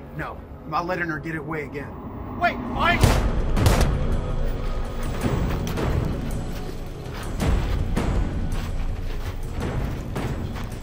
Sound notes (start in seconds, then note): 3.5 gunshots fire; 6.0 suspenseful music